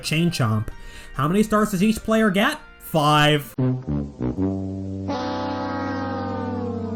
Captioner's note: Price is Right losing sound